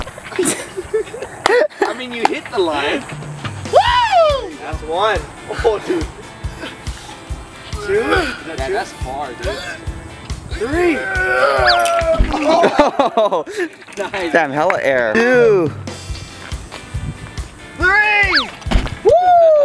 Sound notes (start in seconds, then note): 0.3 laughing; 7.8 grunts; 10.9 grunt; 18.3 swoosh